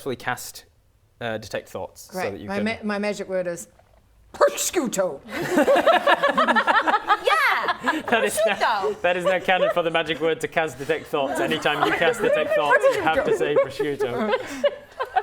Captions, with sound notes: cast detect thoughts Great My magic word is prosciutto Prosciutto! *laughing* Yeah! Prosciutto! That is now canon for the magic word to cast detect thoughts Anytime you cast detect thoughts you have to say prosciutto